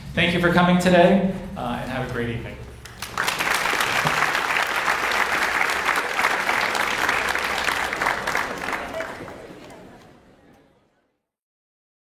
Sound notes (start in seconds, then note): 2.8 audience applauds